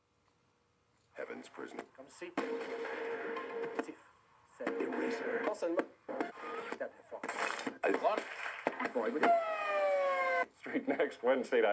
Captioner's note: sound of TV channels changing